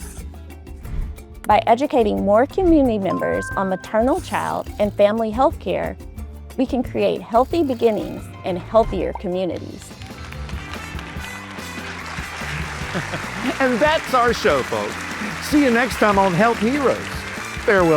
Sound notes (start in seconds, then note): 11.5 audience applauding; 11.5 upbeat music